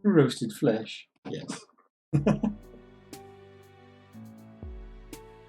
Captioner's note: chuckles